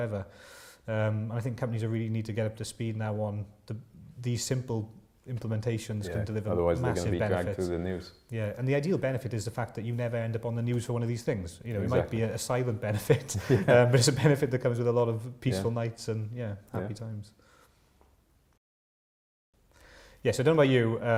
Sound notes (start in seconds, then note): 13.0 laughter